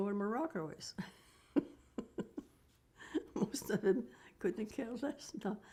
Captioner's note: laughing